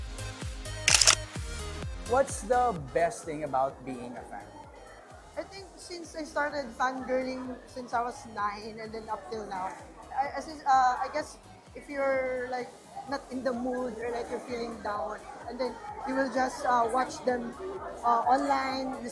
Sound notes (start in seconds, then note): 0.8 camera shutter clicks